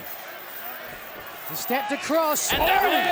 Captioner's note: fans chattering